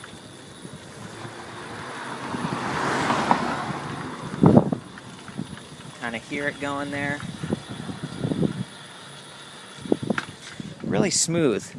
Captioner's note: motor whirring